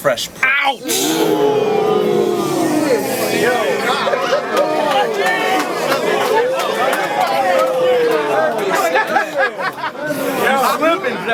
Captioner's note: crowd Reaction